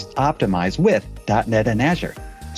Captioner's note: none